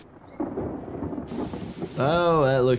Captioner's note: thunder rumbling